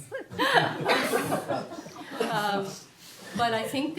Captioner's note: audience laughs